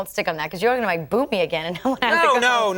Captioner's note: chuckles